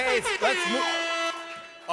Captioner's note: air horn blowing